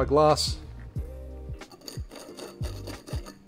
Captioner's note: scraping